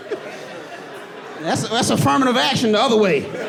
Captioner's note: audience laughing